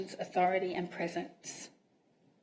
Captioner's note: none